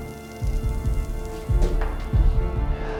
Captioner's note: sizzling